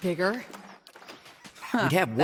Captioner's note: wooden chest opening